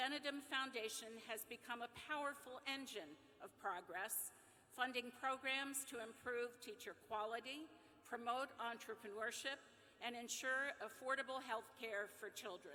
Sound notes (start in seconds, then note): none